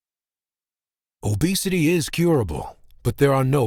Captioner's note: voiceover